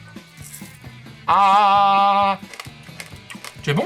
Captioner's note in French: bruit des granules homéopathiques qui croustillent